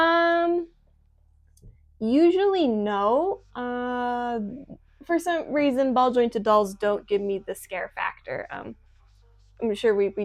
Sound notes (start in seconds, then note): none